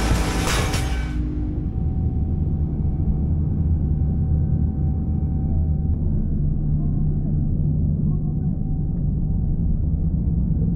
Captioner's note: something explosive hits the turret